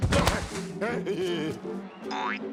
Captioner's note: laughing